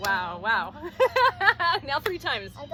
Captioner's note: laughing